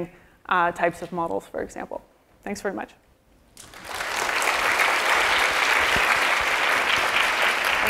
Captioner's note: applause